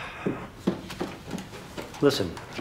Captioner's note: sighs